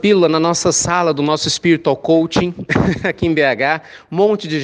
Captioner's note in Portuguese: risos